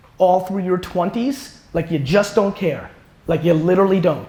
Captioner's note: none